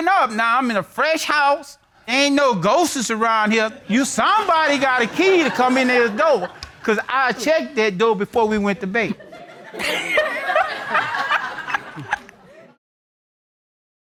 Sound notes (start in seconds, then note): 9.1 all laughing